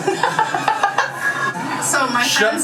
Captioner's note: laughs